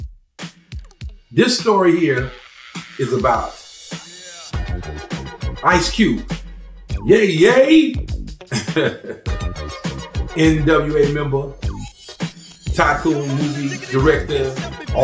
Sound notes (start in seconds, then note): 0.1 upbeat music; 8.5 laughs; 9.1 upbeat music